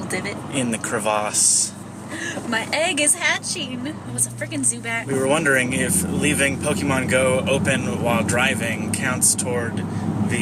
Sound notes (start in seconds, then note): 2.1 gasps